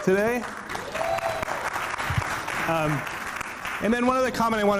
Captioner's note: audience clapping